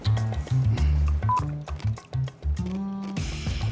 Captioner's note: beep